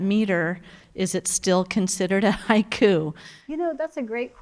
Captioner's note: chuckles